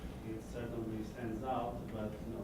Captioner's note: voiceover